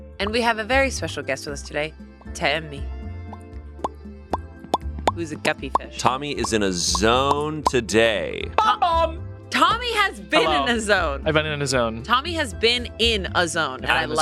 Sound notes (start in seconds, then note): 4.6 pops